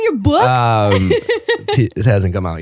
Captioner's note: laughing